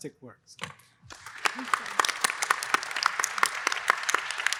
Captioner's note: applause